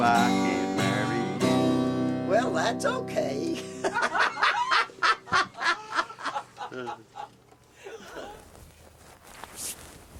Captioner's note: laughter